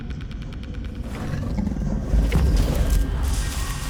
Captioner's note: growl